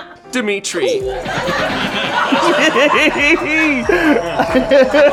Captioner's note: laughter